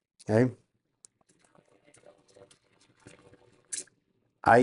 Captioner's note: water flushing